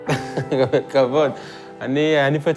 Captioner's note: laughs